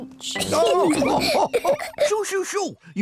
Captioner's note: all laugh